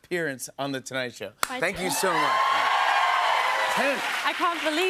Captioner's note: cheers and applause